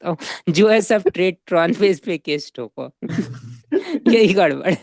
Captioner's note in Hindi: हंसी